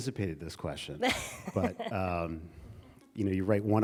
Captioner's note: chuckles